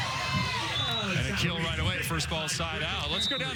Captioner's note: cheers